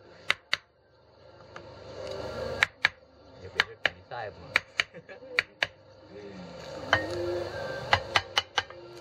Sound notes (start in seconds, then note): 0.1 tapping; 3.7 speaking in Thai; 4.8 laughter